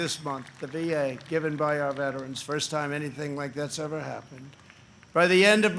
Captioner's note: applause